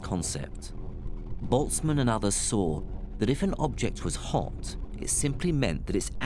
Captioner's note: electronic buzzing